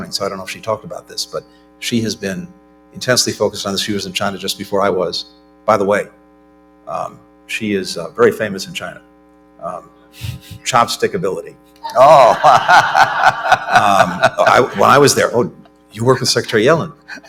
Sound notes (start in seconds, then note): 11.8 laughter